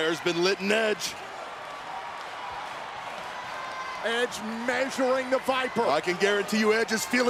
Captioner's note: applause